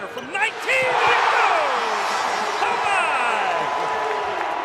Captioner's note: crowd cheers